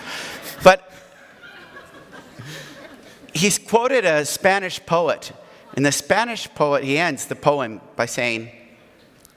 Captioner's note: audience laughs